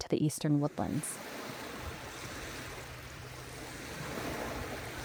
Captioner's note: wavers roaring